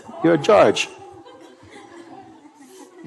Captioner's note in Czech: smích